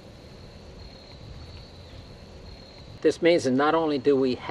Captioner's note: crickets chirping